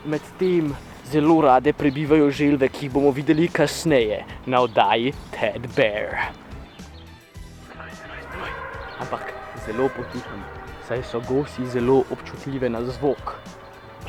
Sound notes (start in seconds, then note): 7.7 whicpering